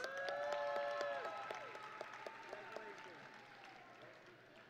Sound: audience and graduates cheering

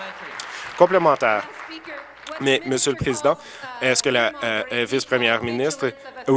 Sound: applause

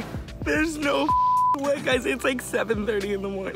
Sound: beep

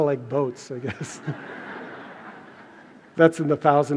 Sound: laughter

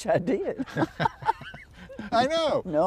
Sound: laughter

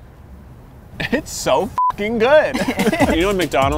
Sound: beep

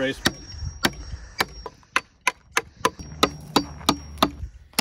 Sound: hummer clacking

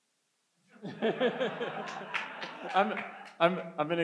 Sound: laughs

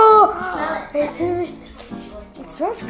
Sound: sniffs

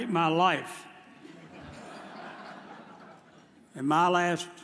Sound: audience chuckles

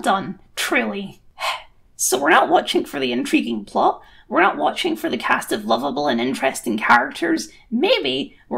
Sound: sigh

